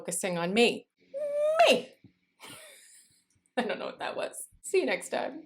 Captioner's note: laughter